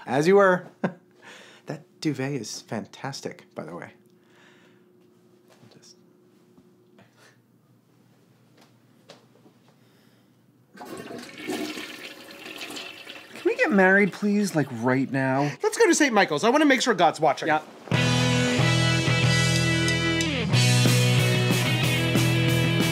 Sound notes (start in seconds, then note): 10.7 toilet flushing